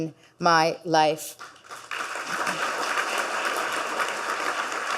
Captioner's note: audience clapping